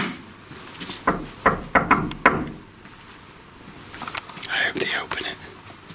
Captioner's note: wrapping on door